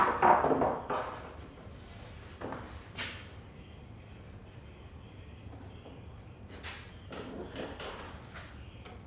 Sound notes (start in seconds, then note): 0.0 board clanking